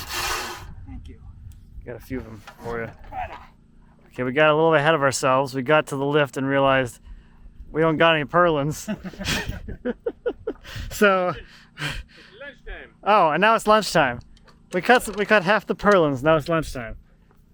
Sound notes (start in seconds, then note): 8.7 builder laughs; 8.8 host laughs